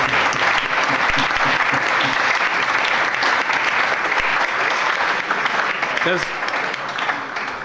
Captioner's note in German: Allgemeiner Beifall